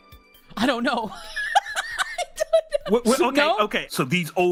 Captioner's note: laughing